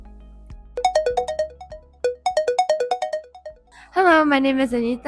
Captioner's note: ringtone playing